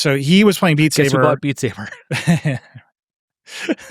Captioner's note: laughing